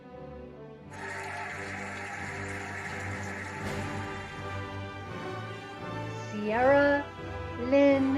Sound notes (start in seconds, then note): 0.9 cheering and applauding